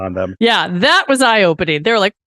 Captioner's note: laughs